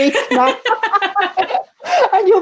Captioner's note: laughter